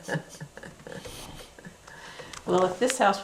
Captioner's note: laughter